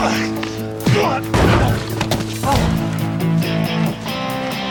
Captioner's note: thud